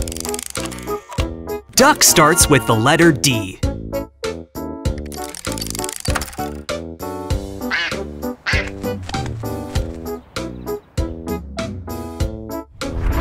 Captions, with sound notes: Duck starts with the letter D. (duck quacks)